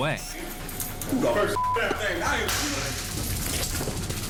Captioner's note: shouting; taser clicking